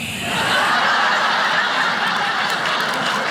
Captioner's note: whispering; audience laughs; audience claps